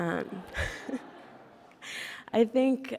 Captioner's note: laughs